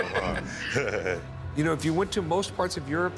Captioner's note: laughter